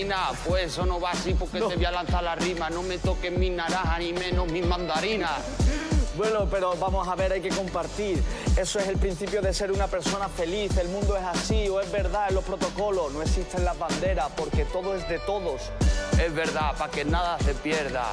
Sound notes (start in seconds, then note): 5.5 laughs